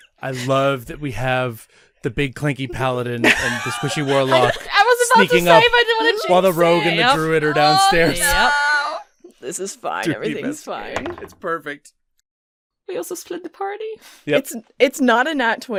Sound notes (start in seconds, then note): 5.7 laughter; 9.0 laughs; 9.6 vague anxious squeal; 11.0 dice clunks